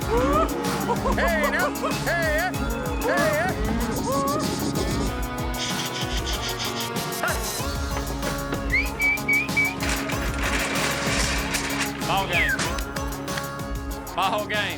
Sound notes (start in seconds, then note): 0.3 calling cattle; 8.4 whistling